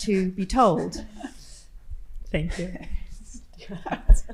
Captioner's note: participants laughing